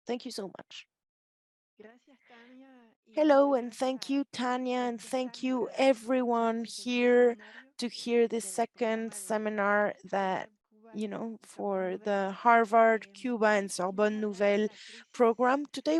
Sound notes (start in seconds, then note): 1.9 speaking in Spanish